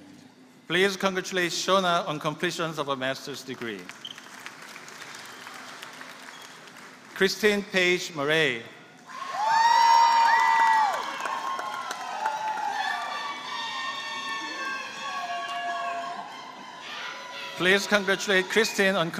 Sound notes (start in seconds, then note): 9.4 applause